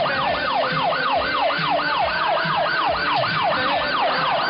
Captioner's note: siren